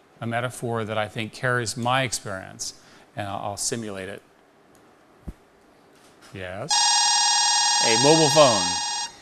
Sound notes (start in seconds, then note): 6.7 phone rings